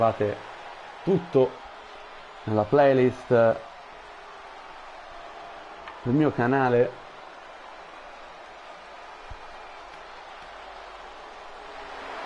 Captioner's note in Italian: Applauso